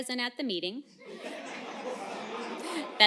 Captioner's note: laughter